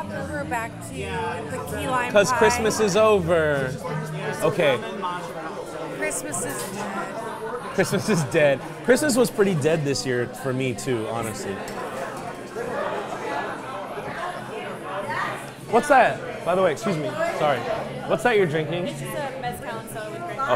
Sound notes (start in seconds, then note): 11.6 patrons chattering